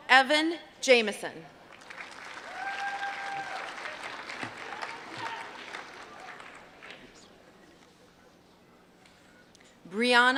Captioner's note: applause